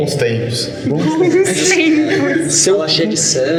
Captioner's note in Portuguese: risadas